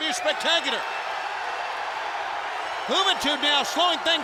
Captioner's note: crowd cheering